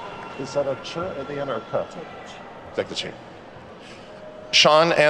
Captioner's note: attendees clapping; speaks faintly